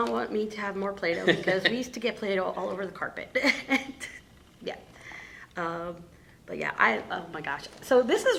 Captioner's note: laughing; laughing